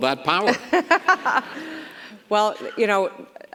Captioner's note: governor laughs